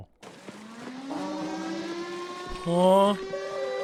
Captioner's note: alarm blares